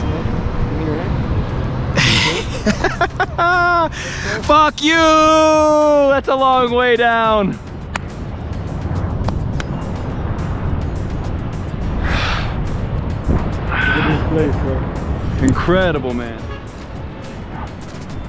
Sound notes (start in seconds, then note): 4.7 laughing; 7.9 hand smacking; 10.2 wind whipping